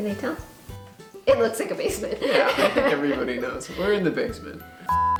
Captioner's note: laugh